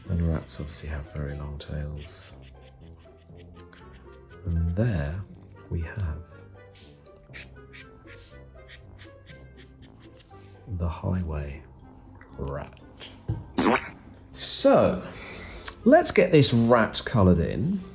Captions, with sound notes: and rats obviously have really long tails. (pen drawing) And there we have - (pen drawing) The Highway Rat. So let's get this rat coloured in.